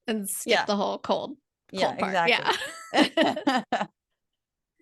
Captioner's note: laugh